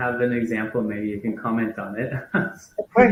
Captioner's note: laughs